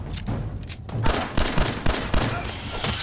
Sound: blam! blam! blam! blam! blam!

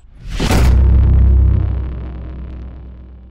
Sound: thud

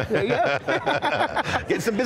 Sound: laughing

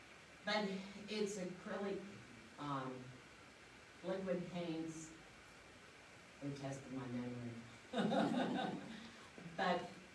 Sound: laughs

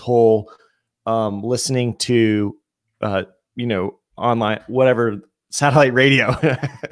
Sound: laughs

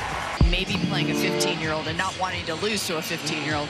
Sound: applause

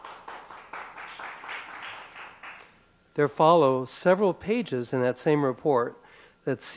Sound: applause

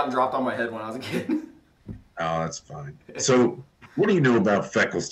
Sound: laughs

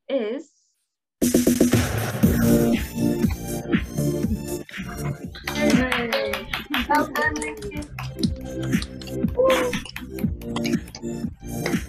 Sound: cheering and clapping

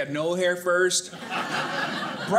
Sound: audience laughing

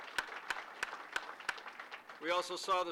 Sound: applause

